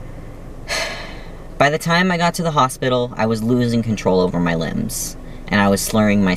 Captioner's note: sigh